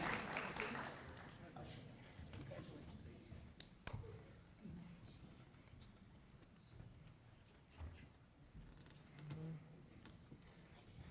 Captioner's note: applause